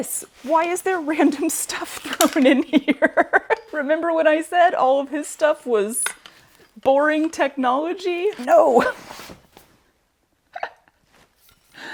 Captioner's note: laughter